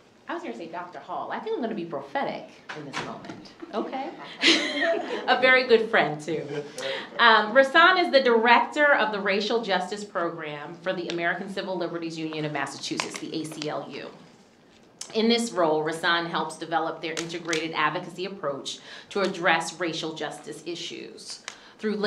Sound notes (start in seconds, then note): 3.6 chuckles; 6.2 laughs